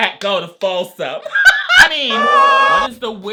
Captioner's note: laughs